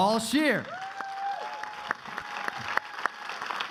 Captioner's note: crowd applauding